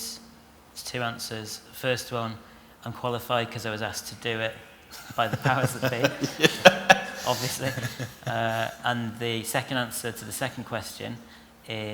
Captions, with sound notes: It's two answers. The first one is I'm qualified because I was asked to do it by the powers that be! (LAUGHTER) Obviously. And the second answer to the second question is...